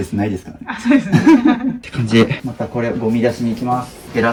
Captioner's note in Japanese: 笑い